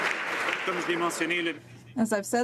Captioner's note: some Applause